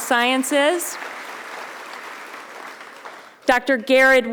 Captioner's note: audience applauding